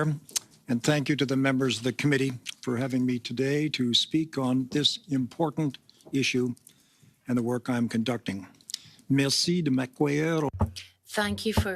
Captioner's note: speaking in French